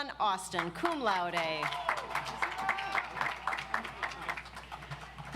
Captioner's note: audience applauds